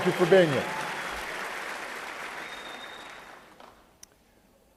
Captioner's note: applause